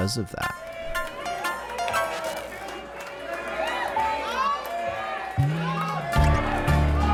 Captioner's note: audience cheering, applauding